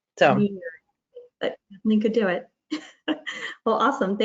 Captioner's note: chuckles